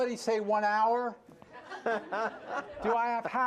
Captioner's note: laughter